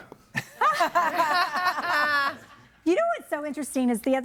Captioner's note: audience laughing